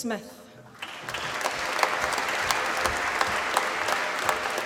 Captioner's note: applause